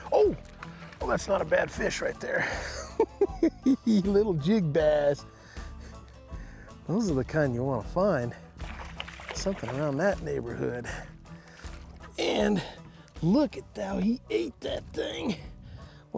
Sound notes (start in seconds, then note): 2.4 chuckling